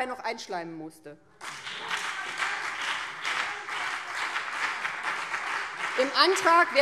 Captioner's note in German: Beifall BÜNDNIS 90/DIE GRÜNEN, vereinzelt CDU und DIE LINKE